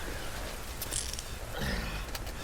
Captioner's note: sound of handcuffs